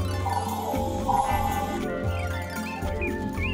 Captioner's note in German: Signal ertönt; Vögel zwitschern